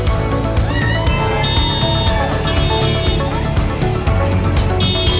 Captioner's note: crowd cheering